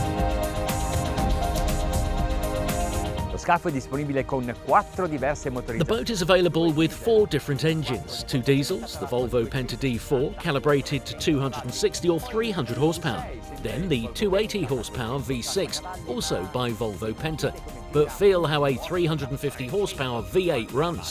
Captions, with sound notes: (speaking in foreign language) The boat is available with four different engines, two diesels, the Volvo Penta D4 calibrated to 260 or 300 horsepower. Then the 280 horsepower V6, also by Volvo Penta but feel how a 350 horsepower V8 runs.